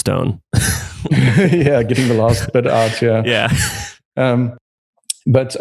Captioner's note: laughs